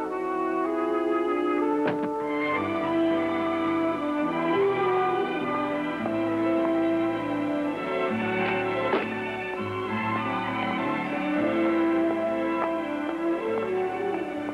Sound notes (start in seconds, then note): 1.8 suitcase thuds; 5.0 romantic music swells